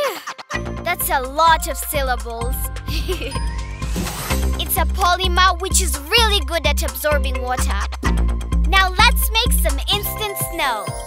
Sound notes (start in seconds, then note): 2.8 giggling